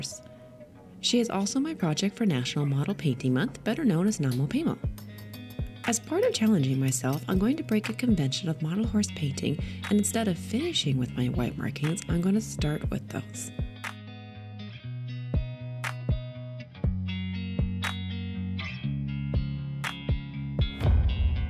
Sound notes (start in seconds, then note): 4.3 metal taps glass